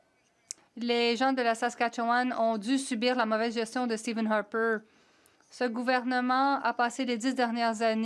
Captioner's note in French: voix de l'interprète